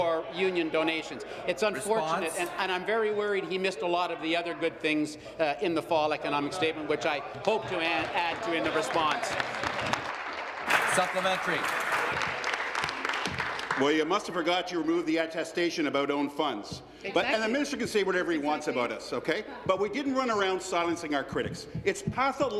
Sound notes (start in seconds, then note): 14.2 applause